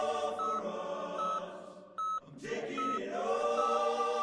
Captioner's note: heart monitor beeps